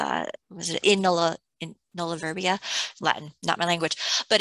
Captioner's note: speaking latin